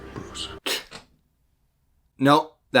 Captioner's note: soft gasp, then stops talking